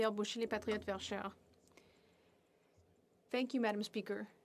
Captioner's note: speaking French